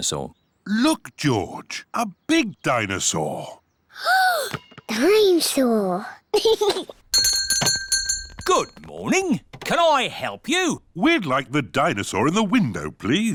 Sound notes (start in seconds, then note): 3.7 gasps; 6.4 giggles; 7.1 bell rings